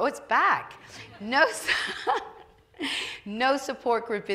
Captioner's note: laughing